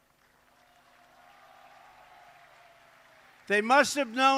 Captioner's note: applause